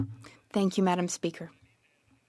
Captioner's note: speaking French